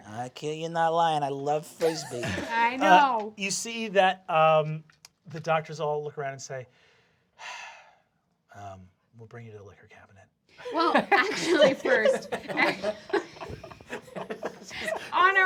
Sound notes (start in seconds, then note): 7.8 sighs; 13.9 laughter